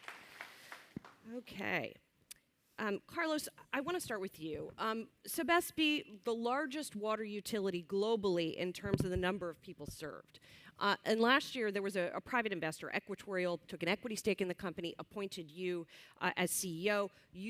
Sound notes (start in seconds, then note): 0.0 applause